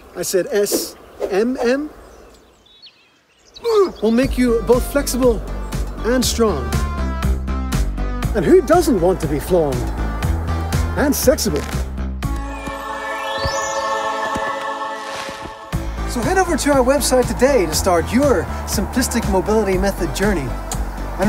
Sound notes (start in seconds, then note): 3.6 man grunting; 15.8 upbeat music